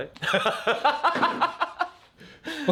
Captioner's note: laughing